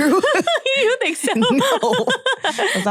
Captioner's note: chuckles